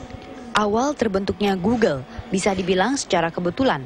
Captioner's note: non-english speech